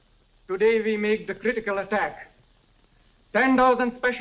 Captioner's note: none